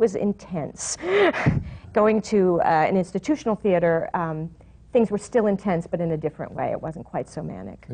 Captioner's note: laughs